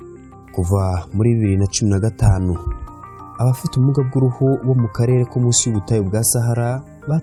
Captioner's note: speaking in Kinyarwanda